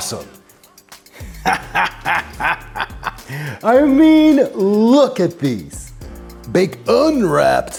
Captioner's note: laughs